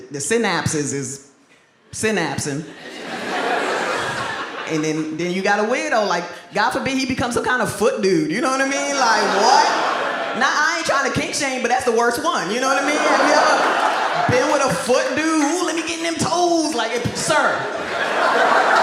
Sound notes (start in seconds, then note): 2.7 audience laughs; 8.4 audience laughs